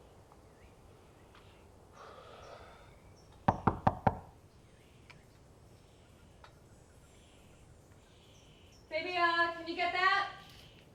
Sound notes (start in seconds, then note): 2.0 sighs; 3.4 knocking